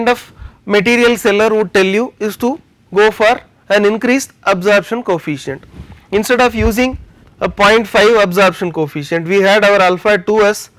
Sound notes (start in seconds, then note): 6.6 air conditioning